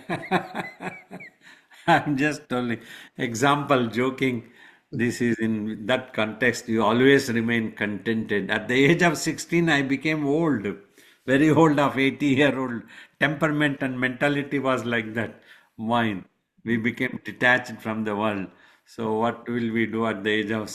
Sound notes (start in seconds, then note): 0.0 laughs